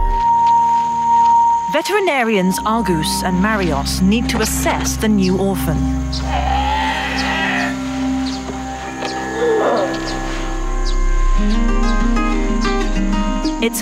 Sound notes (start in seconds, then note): 6.1 animal moaning; 11.8 inspirational music